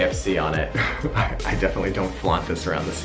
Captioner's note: chuckles